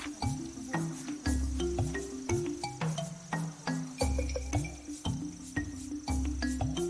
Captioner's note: dramatic music; wood gnashing